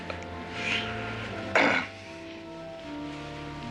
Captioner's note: clears throat